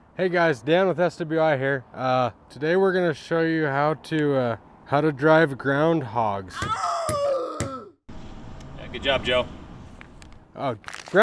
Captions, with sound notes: - Hey guys, Dan, with SWI here today, we're going to show you how to, how to drive ground hogs. (comical animal noise) - Good job, Joe.